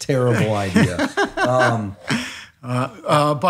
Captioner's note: laughs